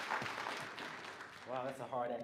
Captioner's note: applause